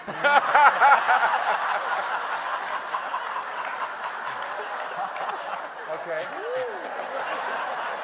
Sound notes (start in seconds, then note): 0.0 everyone laughing; 0.2 audience applauding